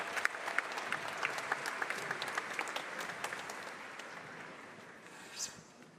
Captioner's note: applause